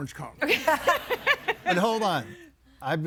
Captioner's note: laughs